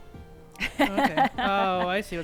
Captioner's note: laughing